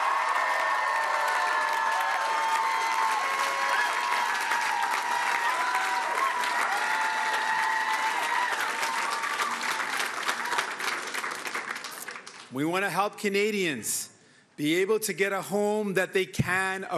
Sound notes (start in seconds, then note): 4.8 cheering and Applause